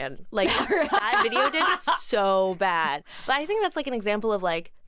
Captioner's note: laughs